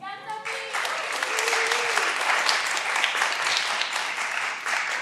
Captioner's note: all applauding